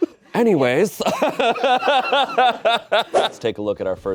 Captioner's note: audience laughing; laughs